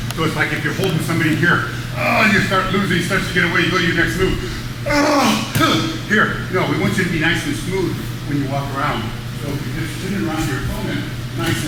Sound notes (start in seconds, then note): 4.2 grunts; 4.9 screams